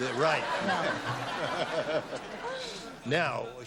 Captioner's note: laughter